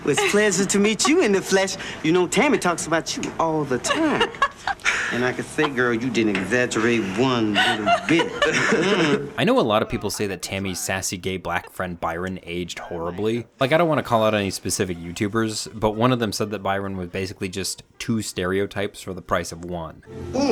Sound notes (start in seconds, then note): 3.7 Tammy laughs; 7.4 Michael chuckles; 8.5 Tammy laughs